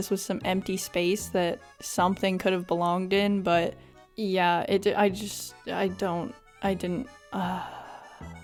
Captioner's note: sighhhh